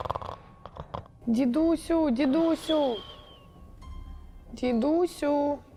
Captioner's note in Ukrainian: храп